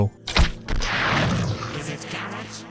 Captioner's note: boosh